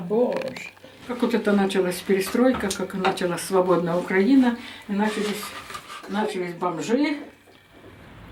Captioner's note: speaking Russian